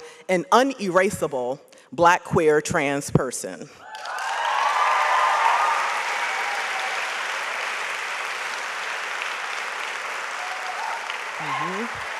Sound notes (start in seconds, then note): 3.9 audience applauds